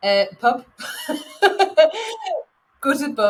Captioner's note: laughing